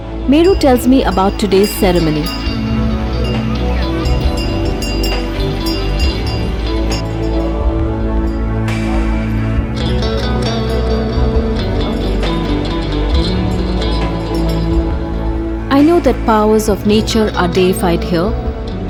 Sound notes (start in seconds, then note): 2.6 bell jingles; 2.6 gentle music